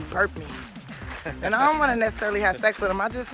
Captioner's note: chuckles